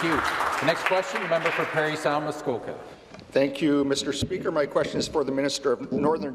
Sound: applause

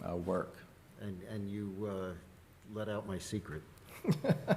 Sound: laughs

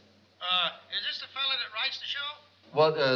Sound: on phone

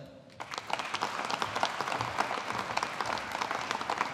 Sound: audience applauding

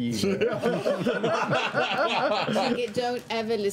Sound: laughter

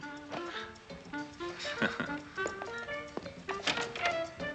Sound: Gary laughing

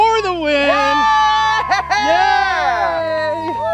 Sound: cheering

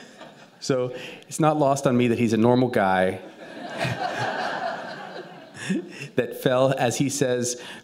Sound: laughter; laughter

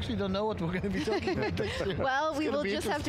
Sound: laughing

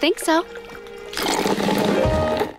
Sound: slurping

